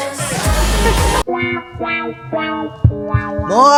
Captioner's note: whomp whomp sound effect